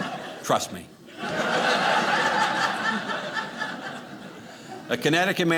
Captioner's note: audience laughing